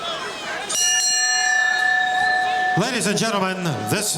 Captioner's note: bell rings